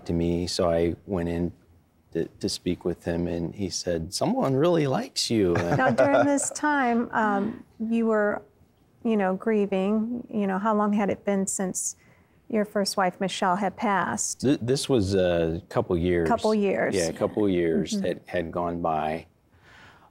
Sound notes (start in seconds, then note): 5.5 laughing